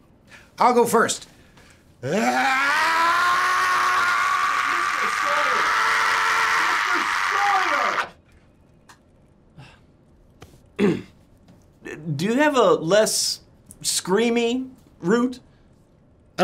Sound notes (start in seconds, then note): 2.0 lawyer screams